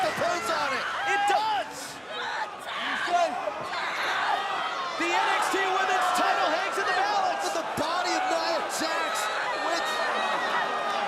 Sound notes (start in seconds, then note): 2.7 crowd chatter